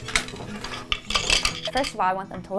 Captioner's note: shuttle rattles; machine scrapes